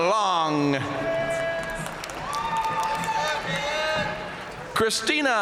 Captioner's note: audience cheering and applauding